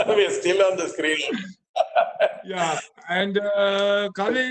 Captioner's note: laughs